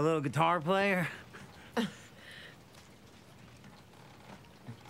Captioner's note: laughs